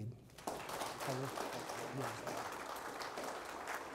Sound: audience applause

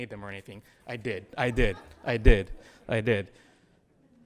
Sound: audience laughs

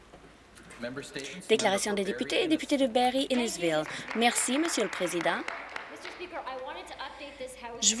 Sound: some Applause

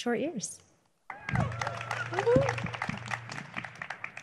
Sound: cheering

